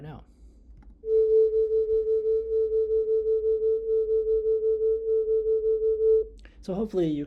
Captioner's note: sound humming